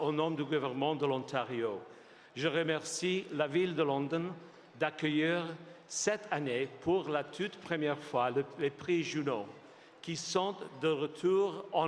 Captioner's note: speaking French